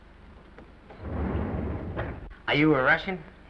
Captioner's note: door slide shut